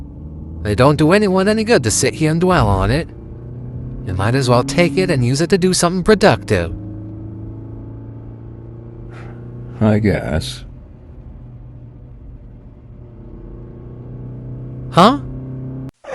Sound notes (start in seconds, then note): 9.0 sighs